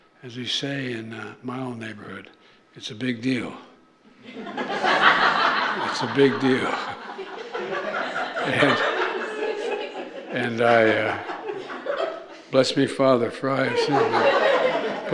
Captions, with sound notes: As we say in my old neighborhood, it's a big deal. (Laughter.) It's a big deal. And -- and I -- bless me, Father, for I have sinned.